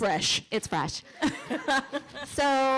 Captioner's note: laughter